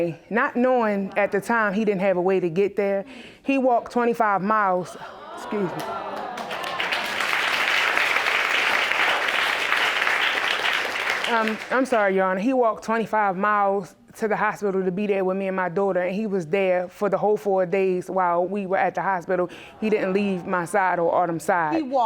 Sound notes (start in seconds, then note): 5.6 audience exclaiming; 5.7 audience applauding